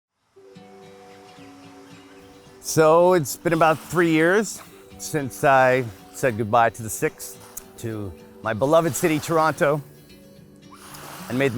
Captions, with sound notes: (gentle sanguine music) (birds chirping) - So, it's been about three years, since I've said goodbye to the sixth, to my beloved city Toronto, (water plops)